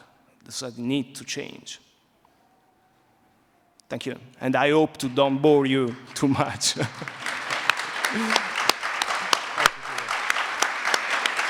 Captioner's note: applause